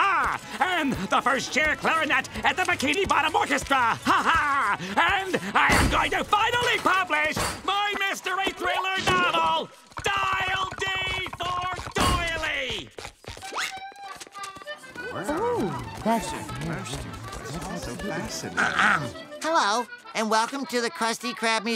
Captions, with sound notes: And the first chair clarinet in the Bikini Bottom Orchestra! Ha-ha, and I am going to finally publish my mystery thriller novel, 'Dial D for Doily'! Ooh. [chattering] [clearing throat] Hello, and welcome to the Krusty Krab Museum,